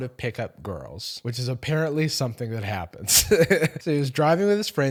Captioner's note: laughs